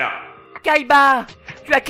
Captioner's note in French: Yu-Gi, s'exclame